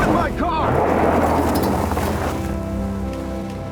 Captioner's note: car engine accelerating